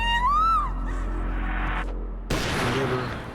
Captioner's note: gunshot